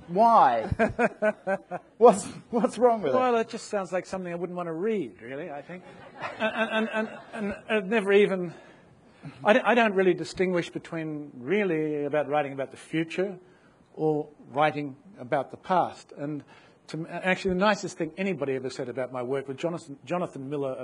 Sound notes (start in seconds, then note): 0.6 laughs; 5.8 audience laughs